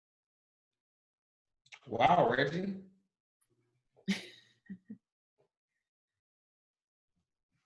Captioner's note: chuckles